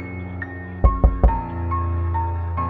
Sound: knock Knock Knock

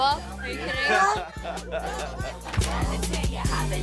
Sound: laughter

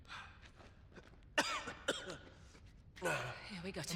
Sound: coughs

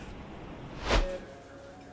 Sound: transitional whoosh

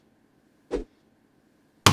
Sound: whoosh

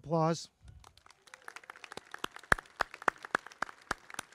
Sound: crowd clapping

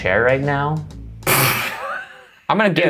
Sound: laughing

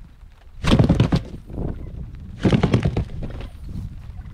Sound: plastic rattling

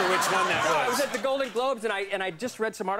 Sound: audience laughs

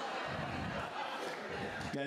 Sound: laughter

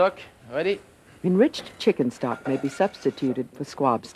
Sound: voiceover

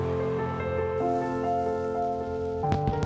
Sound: sparkler fizzing; fireworks explosion

